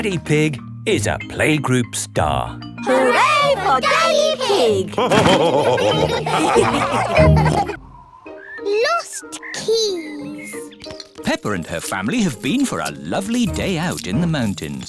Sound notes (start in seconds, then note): 4.9 all laughing